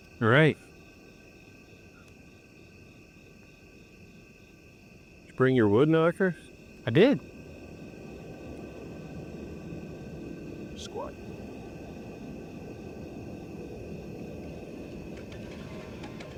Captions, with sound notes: Did you bring your wood knocker? - I did. [tense music] [crickets chirping]